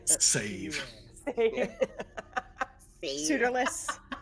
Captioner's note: laughing